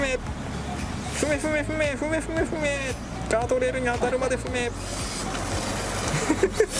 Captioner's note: laughs